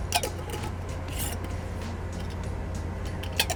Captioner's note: lid clicking